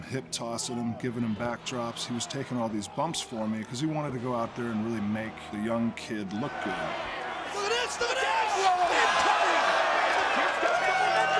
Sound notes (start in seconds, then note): 6.9 crowd roaring; 11.2 crowd cheering